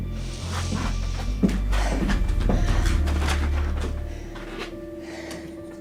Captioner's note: Sally breathes heavily